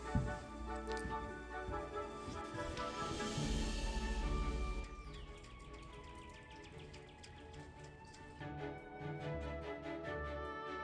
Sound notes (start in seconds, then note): 5.0 distant bird calls